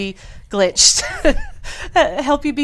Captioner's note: woman laughs